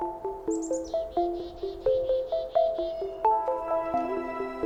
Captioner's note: birds singing